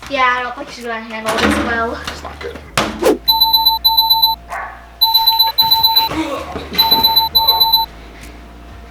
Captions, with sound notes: - Yeah. I don't think she's gonna handle this well. - That's not good. (loud beeping)